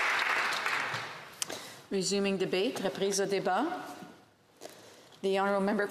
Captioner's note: applause